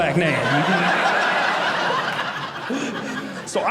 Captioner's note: audience laughing